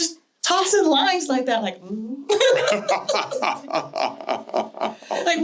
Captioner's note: laughter